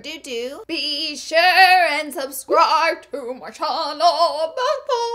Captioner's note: sing-songy